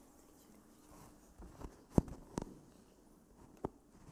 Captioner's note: silence